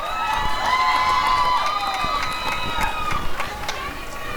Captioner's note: applause and cheering